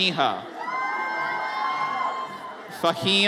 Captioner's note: audience cheers